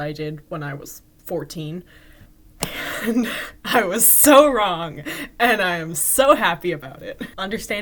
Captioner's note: laughing